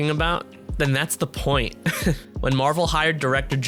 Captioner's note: laughs